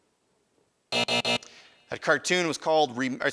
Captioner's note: alarm buzzes